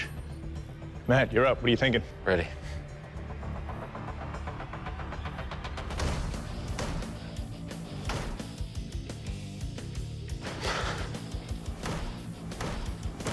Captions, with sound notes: Matt, you're up. What are you thinking? I'm ready. [pounding]